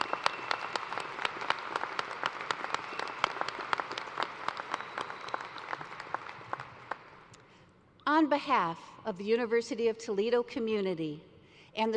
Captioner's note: applause